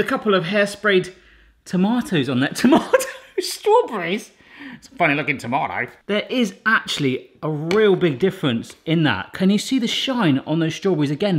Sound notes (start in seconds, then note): 3.4 snicker